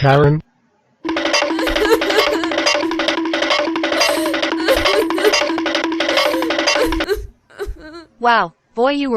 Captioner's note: crying